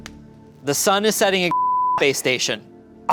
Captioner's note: beep